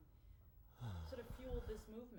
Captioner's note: sighs